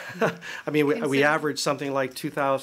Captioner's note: laughter